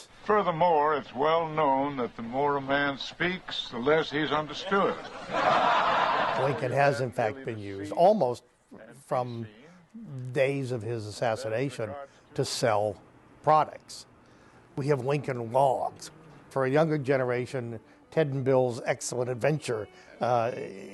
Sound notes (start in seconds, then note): 4.6 laughter